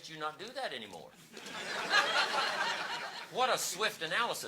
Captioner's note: audience laughing